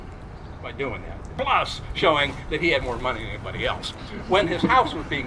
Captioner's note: crowd chuckles